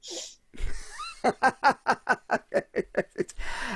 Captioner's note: laughing